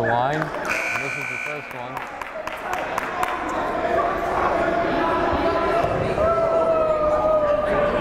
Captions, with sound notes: Chris Hansen at the line. (buzzer blaring) Misses his first one. (yelling)